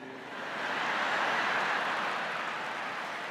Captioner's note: laughter